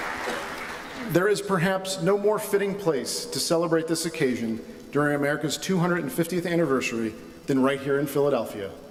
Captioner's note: applause